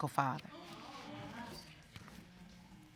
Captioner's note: audience speaking indistinctly